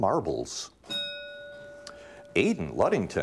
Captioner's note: bell rings